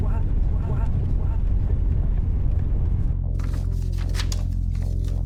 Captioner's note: voices echoing